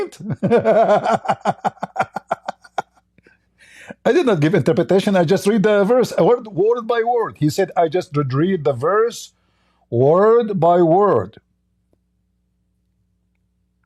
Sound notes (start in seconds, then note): 3.4 Ketawa